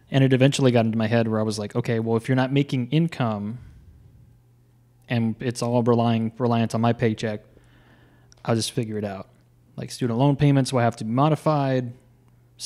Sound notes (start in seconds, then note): none